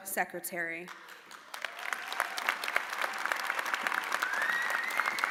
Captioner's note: audience applauding